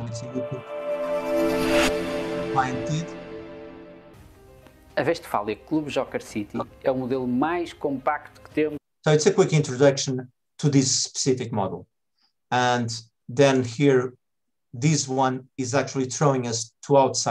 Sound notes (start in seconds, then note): 0.2 bright music; 5.3 presenter speaking in foreign language